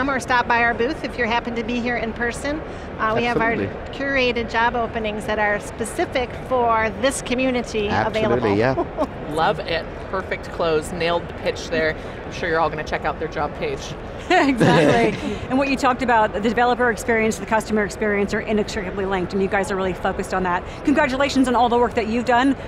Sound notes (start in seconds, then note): 14.5 all laugh